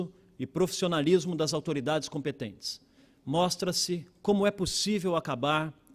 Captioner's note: speaking Portugese